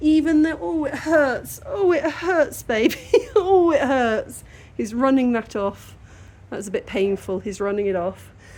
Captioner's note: laughing